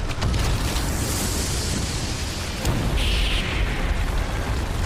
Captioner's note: magical whirring sound